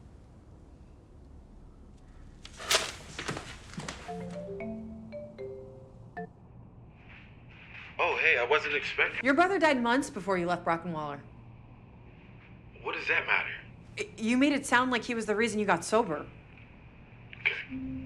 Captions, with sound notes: (tearing sheet) (video call ringing) - Oh hey, I wasn't expecting... - Your brother died months before you left Brock and Waller. - What does that matter? - You made it sound like he was the reason you got sober. - Okay.